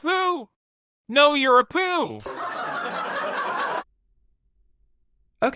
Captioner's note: canned laughter